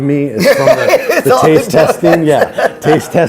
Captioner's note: laughs loudly